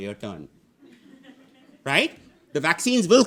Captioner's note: audience laughing